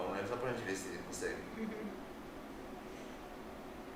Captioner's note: laughter